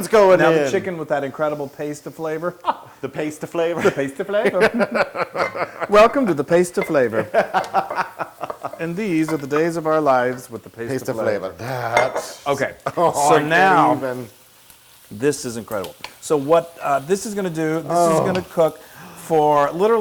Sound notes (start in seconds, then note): 4.4 laugh